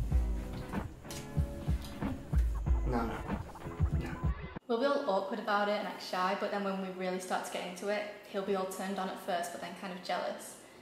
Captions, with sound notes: No, no, no, no. (Voiceover) We'll be all awkward about it and act shy but then when we really start to get into it he'll be all turned on at first but then kind of jealous